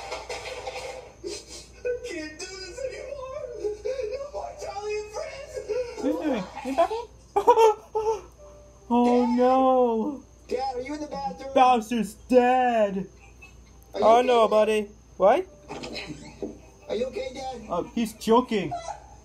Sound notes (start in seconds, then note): 1.2 whimpering; 5.7 sobs, chokes; 7.4 gasping